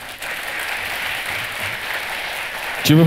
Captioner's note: the audience cheers